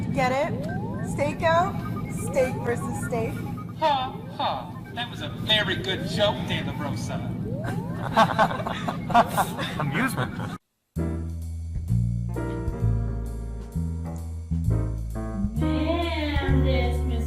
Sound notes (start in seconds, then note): 7.6 laughs, APPA: "Amusement!"; 11.0 smooth Jazz